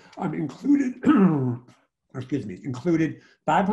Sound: clears throat

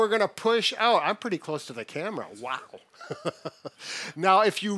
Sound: laughs

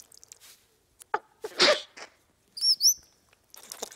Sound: water trickling; sneezing; curious chirping

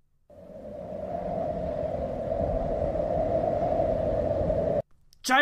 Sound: insert wind noises

